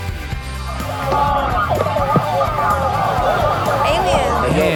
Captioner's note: distorted bees buzzing